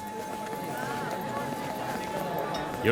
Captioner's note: babble of voices